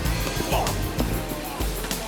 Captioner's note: car door clicks; John groans; footsteps tapping